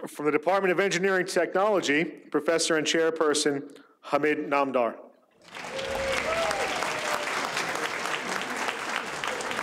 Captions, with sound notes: - For the Department of Engineering Technology, Professor and Chairperson Hamid Namdar (audience applauds)